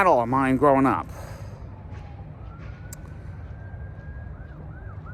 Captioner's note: sirens continue to wail from a distance